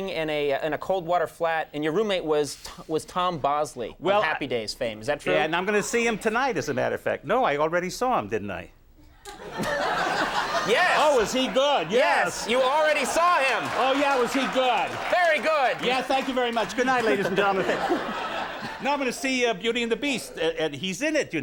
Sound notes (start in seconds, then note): 9.5 audience laughs; 13.0 audience applauds